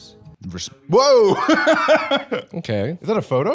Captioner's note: laughs